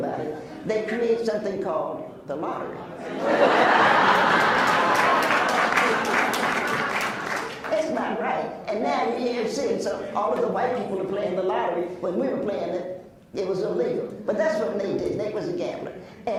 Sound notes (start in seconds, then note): 4.1 applauds; 5.5 laughs